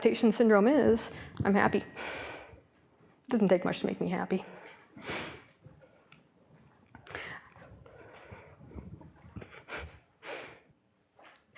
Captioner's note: pause